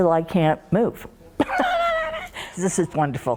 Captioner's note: laughs